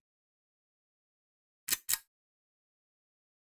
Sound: click

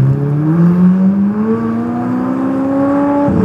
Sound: engine Revving

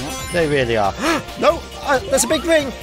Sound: gasp

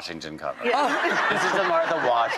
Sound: audience laughs

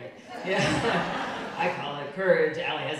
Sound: audience laughing

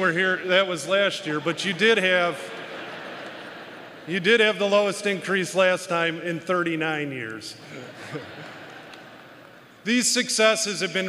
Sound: applause

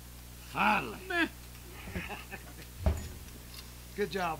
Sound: chuckles

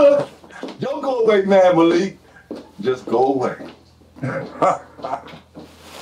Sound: laughs

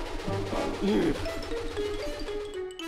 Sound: sighs

